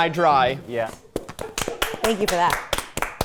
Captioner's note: everyone clapping